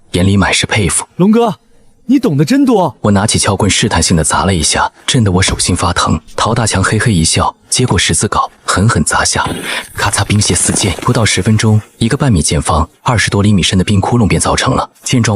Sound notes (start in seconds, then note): 9.3 crack!